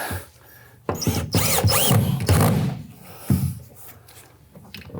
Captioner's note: tool whirring